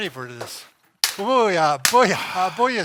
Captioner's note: sticks clatter